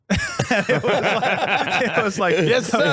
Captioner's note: laughing